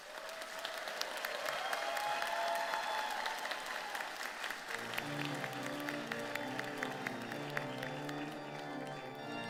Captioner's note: applause